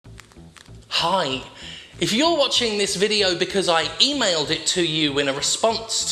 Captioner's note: fingers tap